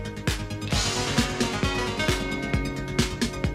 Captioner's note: crowd cheering